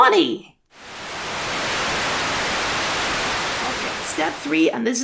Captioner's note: Static